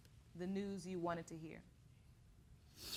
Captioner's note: sniffles